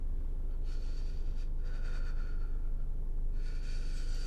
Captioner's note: Mark panting